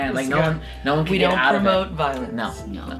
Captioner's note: groans